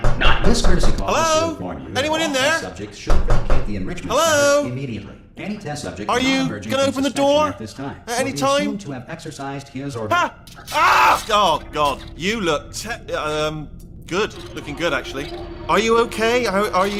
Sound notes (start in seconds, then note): 0.0 knocking.wav; 0.9 in austrailian-british accent; 3.0 knocking.wav